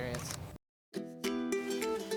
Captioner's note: camera clicks; upbeat music